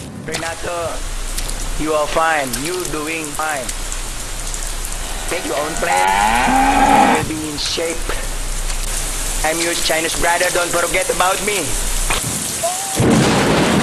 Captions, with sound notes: Renetto, Renetto, you are doing fine. Make your own Plan (background noise rain and Cows) You are Already In Shape. [ sounds of Cow and Heavy Rain ] I am your Chinese Brother Don't forget about me.... Oh My Gossssssssssssssssssssss